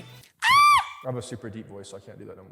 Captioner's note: squeals